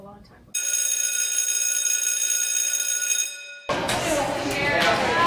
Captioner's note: school bell rings; bright music